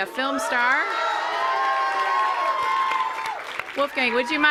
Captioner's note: loud cheering